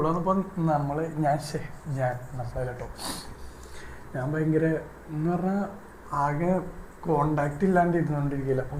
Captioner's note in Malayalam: ചീറ്റുന്നു